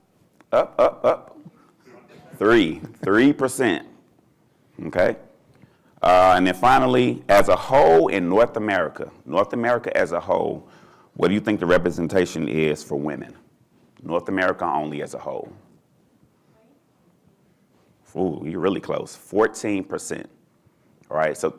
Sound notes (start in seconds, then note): 4.0 chuckling